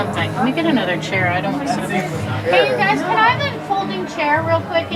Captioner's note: shouting out of the curtain